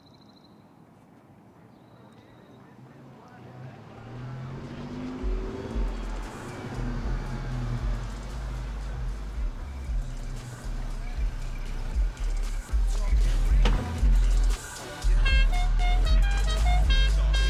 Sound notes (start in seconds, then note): 4.4 car engine roaring; 10.3 music playing on radio